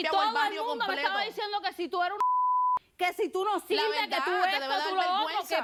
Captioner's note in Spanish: Bip